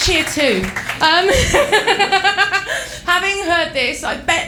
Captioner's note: laughs